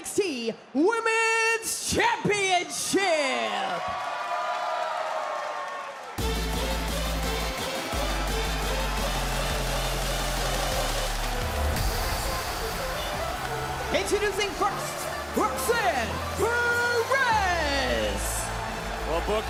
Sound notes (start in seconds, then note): 4.1 crowd cheers